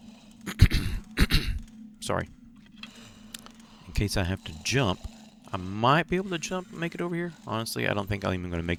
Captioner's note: clears throat